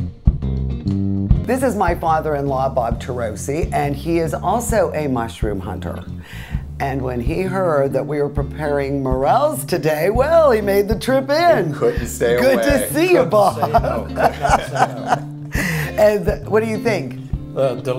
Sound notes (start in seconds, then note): 13.6 laughing